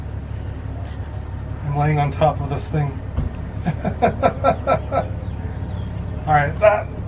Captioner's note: laughter